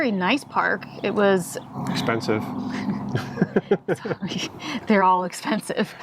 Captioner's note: chuckles